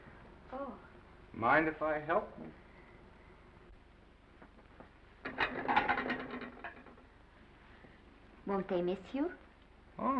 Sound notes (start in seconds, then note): 5.2 plates clattering